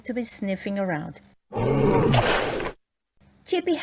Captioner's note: bear grunts